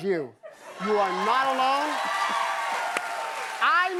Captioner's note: cheers and applause